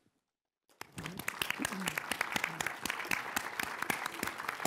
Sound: applause

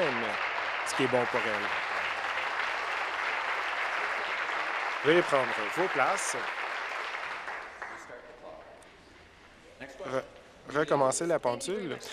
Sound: applause

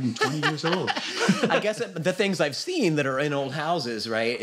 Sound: laughs

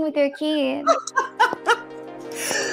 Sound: clicking heels; laughs

